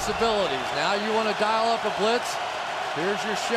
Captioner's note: cheering